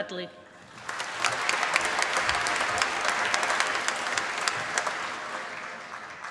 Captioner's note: applause